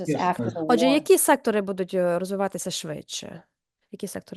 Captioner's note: non-english speech